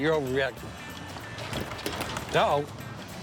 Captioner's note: door rattles